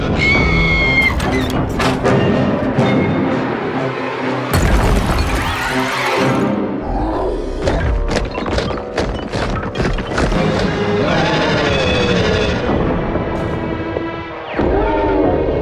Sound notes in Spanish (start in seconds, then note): 0.1 sonido de sacudida y grito; 6.4 sonido de rugido y de masticar; 11.0 rugido